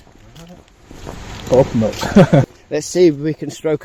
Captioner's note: nervous laugh